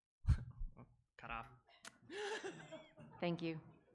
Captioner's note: laughs